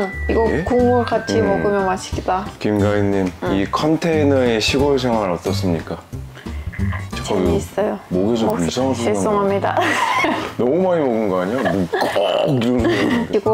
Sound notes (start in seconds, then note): 9.7 laughing; 12.9 laughing